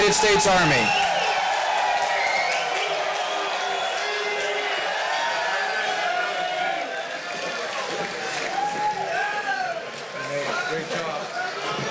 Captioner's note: applause and cheers